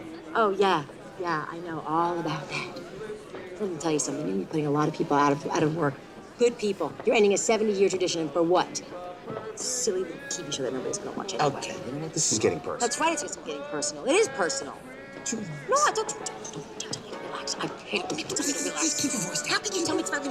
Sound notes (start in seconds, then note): 15.0 arguing